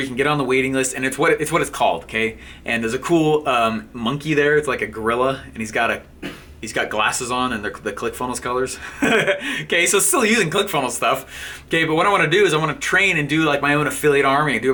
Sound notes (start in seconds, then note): 8.8 laughing